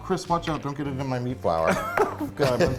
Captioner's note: laughs